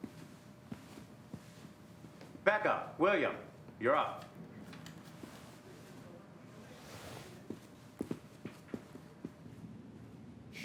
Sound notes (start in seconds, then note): 4.8 people chattering